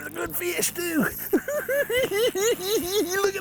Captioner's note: cackling